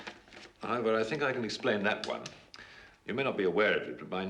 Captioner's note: none